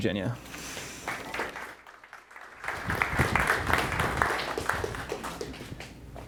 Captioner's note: crowd applauds